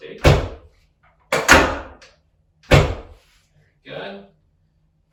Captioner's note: table clicks